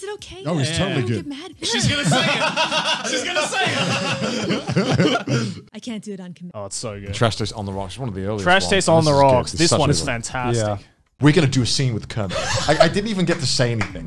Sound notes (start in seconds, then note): 1.7 laughing